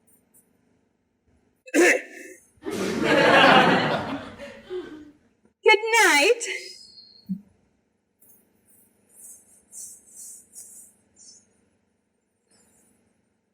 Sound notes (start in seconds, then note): 1.6 cough